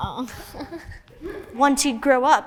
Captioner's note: kids laughing